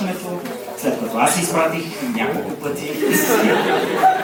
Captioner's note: coughs